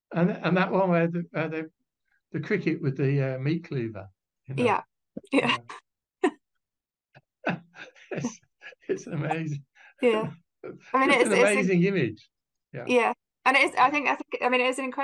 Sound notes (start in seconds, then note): 7.4 laugh